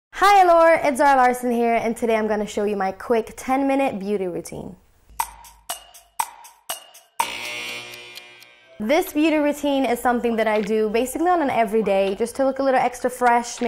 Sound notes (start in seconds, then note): 5.1 clock ticking; 7.2 buzzer sounding